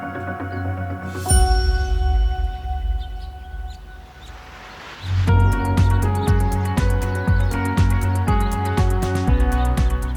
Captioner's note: birds Chirping